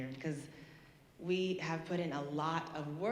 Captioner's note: none